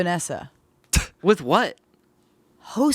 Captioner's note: scoffs